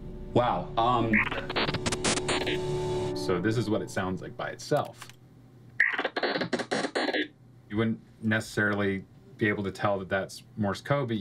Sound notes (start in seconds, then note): 5.8 digital noise